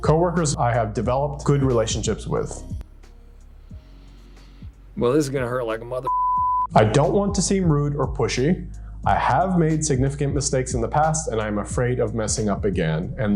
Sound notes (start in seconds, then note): 6.0 beep